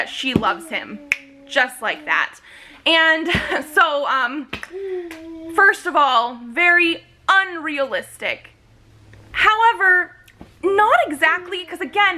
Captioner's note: snaps